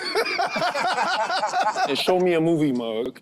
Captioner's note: group laughs